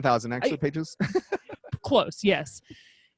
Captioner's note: laughs